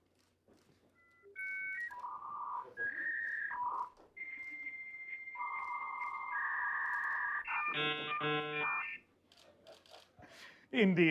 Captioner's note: dial-up sounds